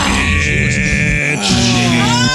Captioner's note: cheering